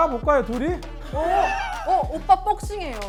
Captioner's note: hee hee